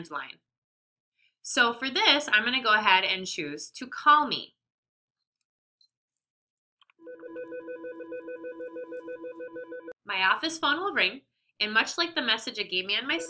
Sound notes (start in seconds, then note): 7.0 phone ringing